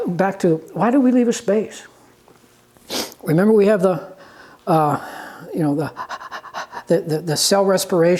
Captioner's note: panting sound